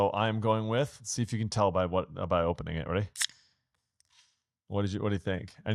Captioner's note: can popping